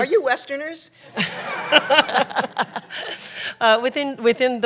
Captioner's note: laughter